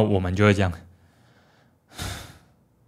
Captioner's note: sigh